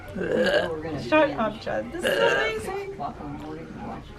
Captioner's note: continued Fake Puking sounds